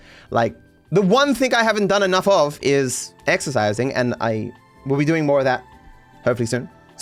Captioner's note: none